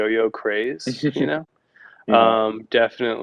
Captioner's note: laughs